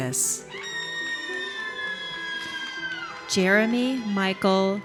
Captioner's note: audience cheers